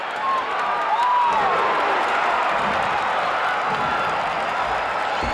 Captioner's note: audience cheering